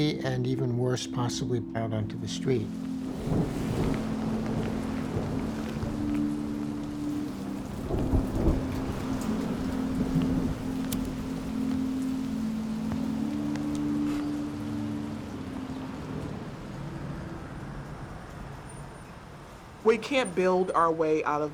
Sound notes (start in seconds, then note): 3.2 thunder rumbling; 10.8 lighter igniting; 14.5 calming music continues; 16.7 cars whirring